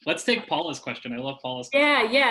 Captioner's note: laughs